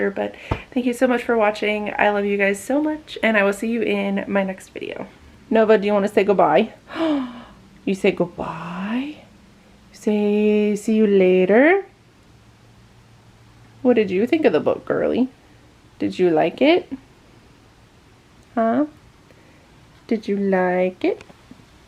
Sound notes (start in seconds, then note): 6.9 gasp!